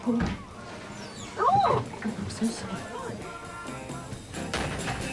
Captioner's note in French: la femme crie